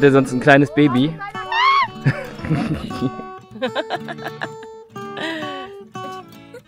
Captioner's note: scream; laugh